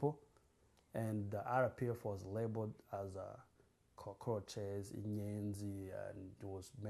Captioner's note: non-english